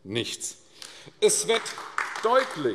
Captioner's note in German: Beifall AfD